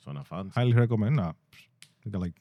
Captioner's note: speaking In Foreign Language